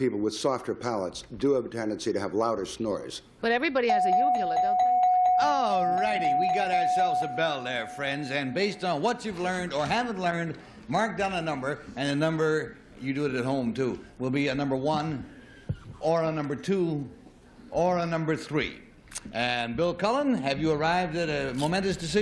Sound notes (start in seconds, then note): 6.0 dings